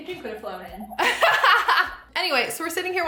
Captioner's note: laughs